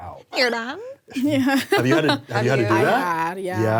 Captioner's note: laughs